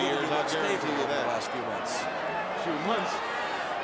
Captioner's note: speaks faintly